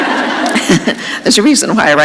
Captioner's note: laughter